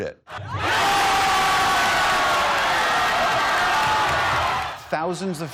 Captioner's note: cheering